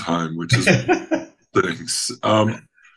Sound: laughing

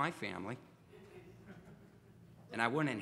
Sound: audience laughs

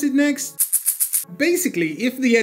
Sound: chits rattle menacingly

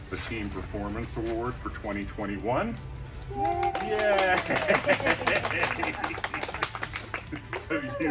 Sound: applause

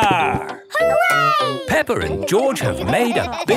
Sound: laughing

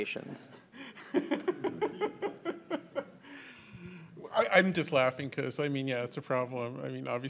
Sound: laughs

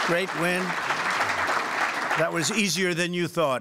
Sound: applause

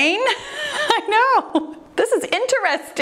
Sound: laughs

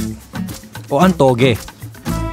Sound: in Filipino

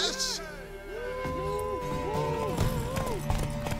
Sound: cheering, hollering

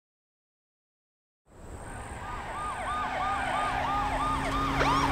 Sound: siren wailing

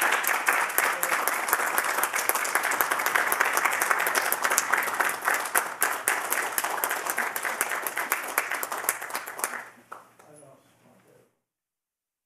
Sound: applause

